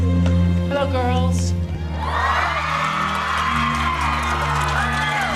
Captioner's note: cheering